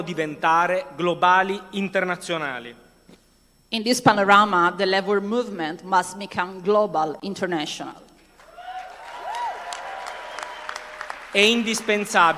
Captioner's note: speaking non-english language